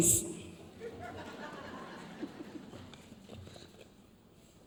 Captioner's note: audience laughs